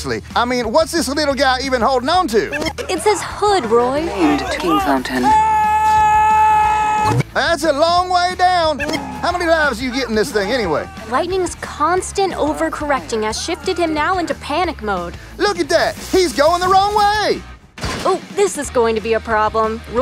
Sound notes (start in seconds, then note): 17.7 bang